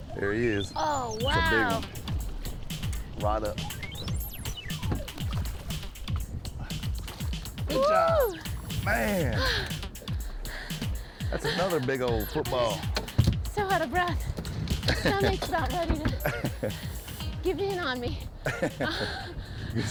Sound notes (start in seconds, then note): 9.9 breathing hard